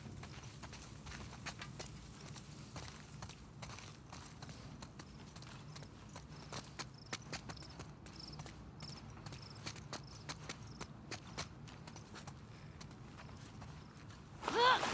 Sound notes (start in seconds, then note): none